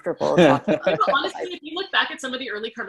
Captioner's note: laughs